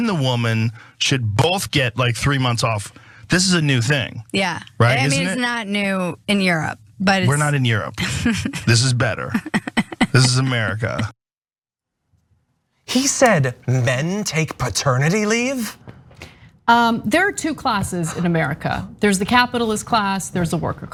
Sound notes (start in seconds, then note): 9.1 laugh